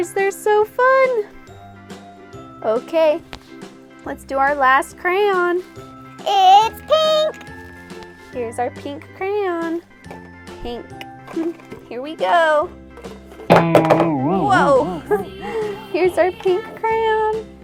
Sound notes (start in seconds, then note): 13.5 loud twang